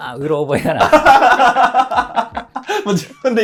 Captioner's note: laughing